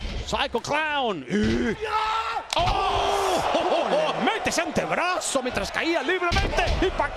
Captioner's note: laugh